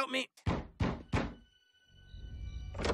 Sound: door knocks

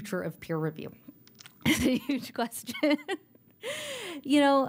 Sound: laughter; laughter

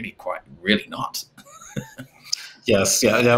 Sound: chuckles

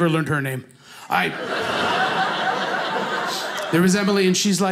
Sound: audience laughing

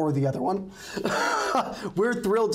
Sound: laughing

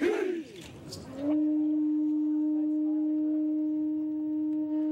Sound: blowing horn

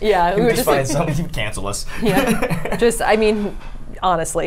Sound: laughs

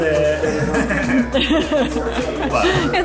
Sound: laughs

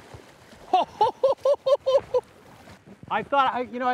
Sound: laughing

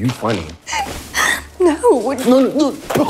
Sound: gasps

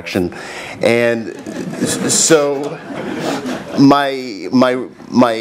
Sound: laugh

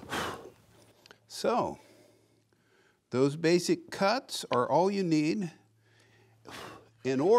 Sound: blowing

